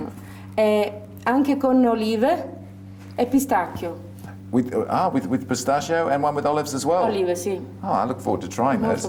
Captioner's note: speaks Italian